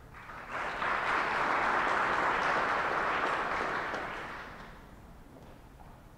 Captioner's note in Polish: oklaski